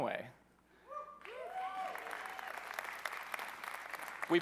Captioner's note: cheering